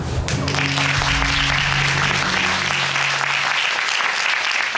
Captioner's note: audience applauding